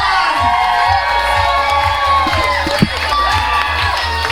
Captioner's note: audience cheering